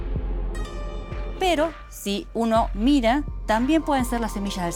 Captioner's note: speaking Spanish